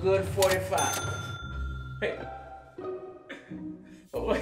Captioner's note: ka-ching